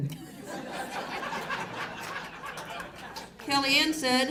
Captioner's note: audience laughs